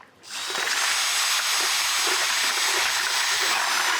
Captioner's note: cement mixer buzzing